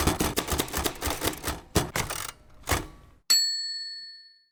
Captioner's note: typewriter typing and dinging